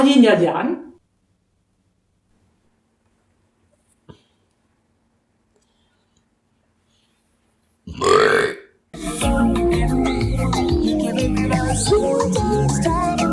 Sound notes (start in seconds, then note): 7.8 burp